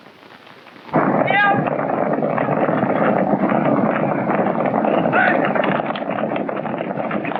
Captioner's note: hooves clomping; men shouting